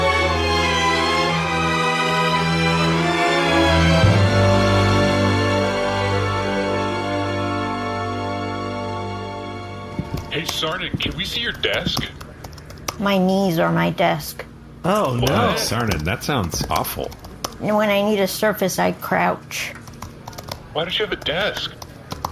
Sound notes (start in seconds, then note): 10.9 typing